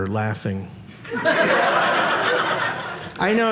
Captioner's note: audience laughing